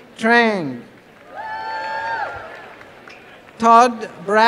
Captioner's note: applause